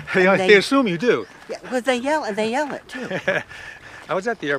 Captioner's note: laughs